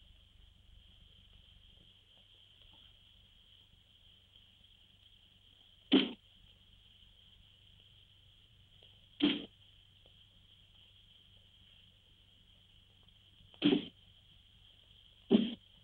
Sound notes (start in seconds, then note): 6.4 dart thuds; 13.9 dart thuds